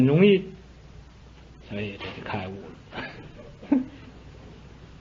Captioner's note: giggles